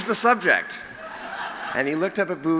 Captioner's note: laughter